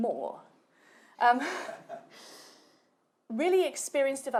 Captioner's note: chuckles